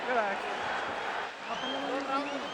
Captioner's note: man speaking spanish